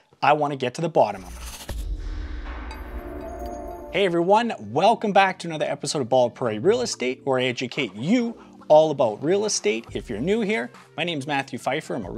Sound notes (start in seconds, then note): 1.2 digital whirring; 1.4 bright music